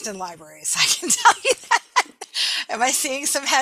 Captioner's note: laughing